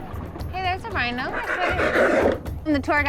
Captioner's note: rhino snorting